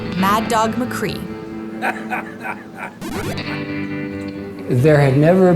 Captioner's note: evil laughter